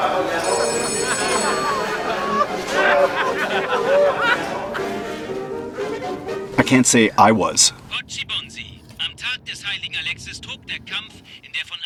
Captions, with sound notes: (Field telephones ringing, men conversing indistinctly in German.) I can't say I was. (German radio news announcer begins a broadcast.)